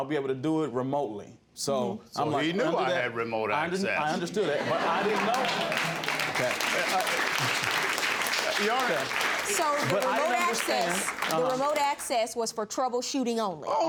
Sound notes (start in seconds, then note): 6.8 audience claps